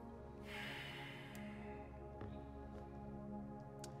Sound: sighing

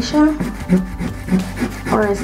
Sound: eraser rubbing

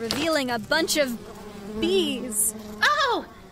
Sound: fabric flop. the menacing hum is now discernibly a swarm of bees

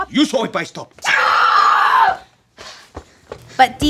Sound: Janet screams in frustration

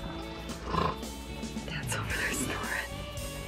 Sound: dad snoring

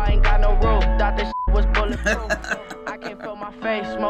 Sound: laughs

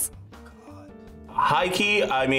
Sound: whispers

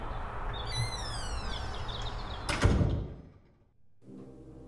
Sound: door creaks

